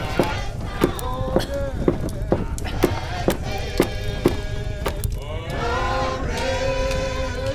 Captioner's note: coughing